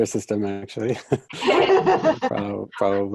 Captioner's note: everyone laughing